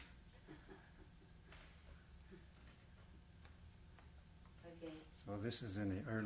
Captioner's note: laughs